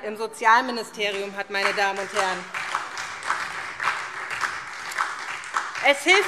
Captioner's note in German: Beifall SPD und vereinzelt DIE LINKE